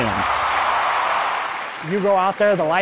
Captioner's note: audience cheering